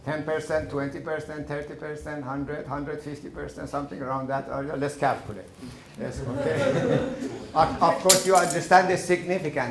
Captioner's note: laughing